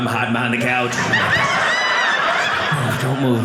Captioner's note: audience laughing